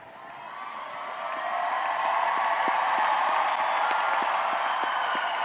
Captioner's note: audience cheering and applauding